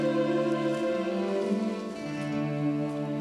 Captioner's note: footsteps